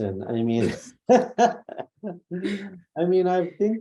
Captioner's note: laughs